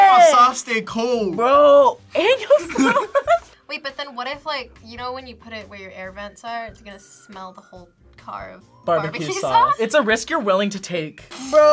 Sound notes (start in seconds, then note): 2.4 laughs